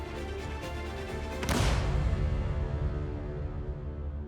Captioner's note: gunshot